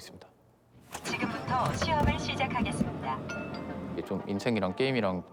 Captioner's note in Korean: 기계 음성